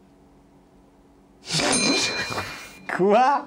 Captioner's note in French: rire